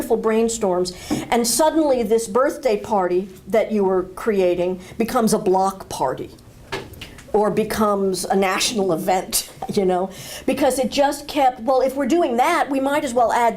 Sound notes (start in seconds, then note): none